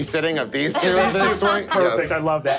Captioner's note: laughing